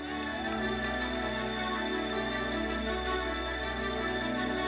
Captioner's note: audience cheers